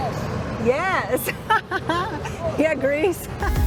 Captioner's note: laughs